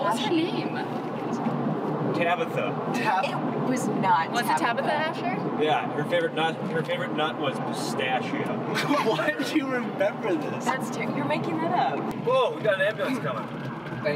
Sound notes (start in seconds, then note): 8.7 laughing